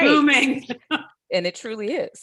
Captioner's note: laughing